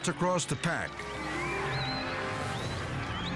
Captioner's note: riders whistling; dramatic music continues